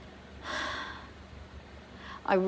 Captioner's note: sighs heavily